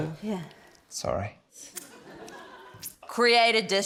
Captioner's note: laughter